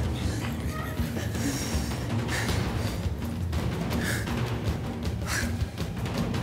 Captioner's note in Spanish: Sollozos de ella